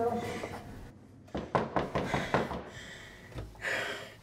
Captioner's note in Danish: Banken på døren